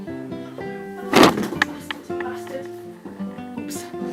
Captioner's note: the sound of books falling against my tripod